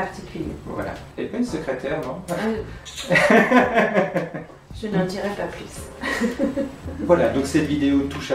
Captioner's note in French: rires